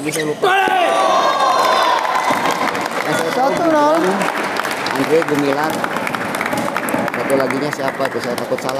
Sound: applause

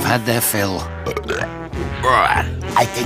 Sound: burps

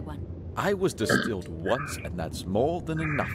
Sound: belches

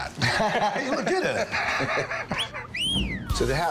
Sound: laughter; wolf whistle

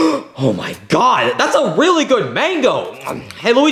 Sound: Mario gasping; chewing

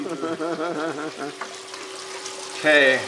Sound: laughing

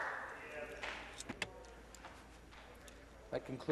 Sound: some Applause

